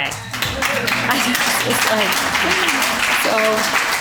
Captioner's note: applause